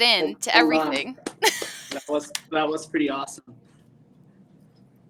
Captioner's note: laughs